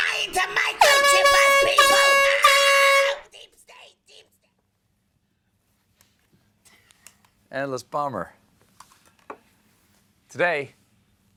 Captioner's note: air horn